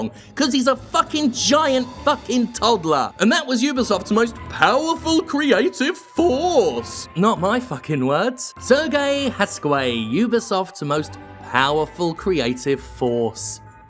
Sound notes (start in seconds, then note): 4.6 mocking